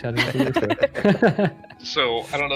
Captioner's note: laughter